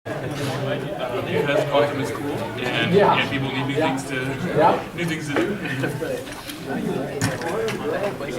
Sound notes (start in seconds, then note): 0.1 students chattering